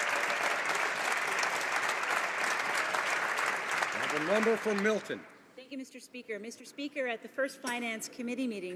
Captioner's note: some Applause